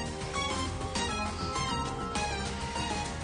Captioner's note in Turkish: telefon çalar